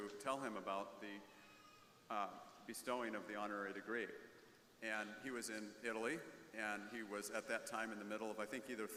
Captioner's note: none